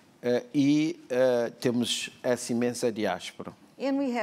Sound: speaking portuguese

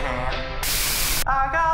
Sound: white noise

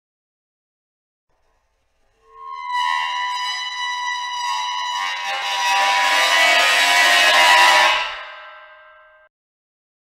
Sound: horror screech

